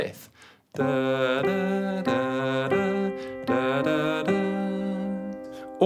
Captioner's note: hums while playing notes